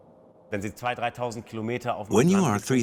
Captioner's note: speaks foreign language